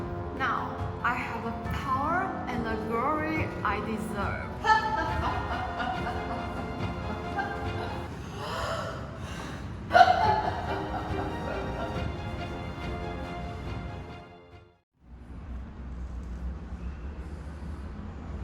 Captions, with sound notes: Now, I have the power and the glory I deserve *evil laughter* *inhale* *more evil laughter*